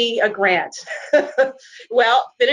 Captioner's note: laughs